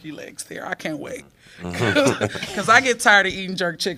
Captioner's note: laughter